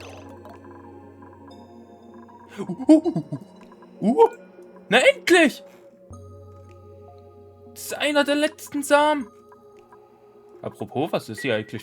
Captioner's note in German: gelächter